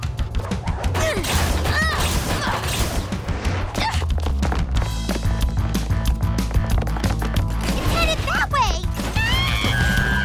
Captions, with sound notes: It's headed that way! [SCREAMING]